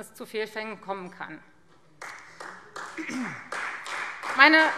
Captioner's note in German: Beifall Freie Demokraten